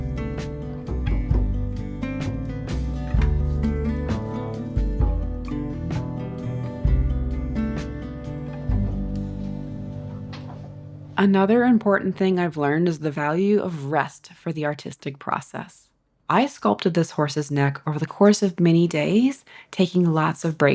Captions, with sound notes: [music fades] [chair rolls, gloves squeak] Another important thing I’ve learned is the value of rest for the artistic process. I sculpted this horse’s neck over the course of many days, taking lots of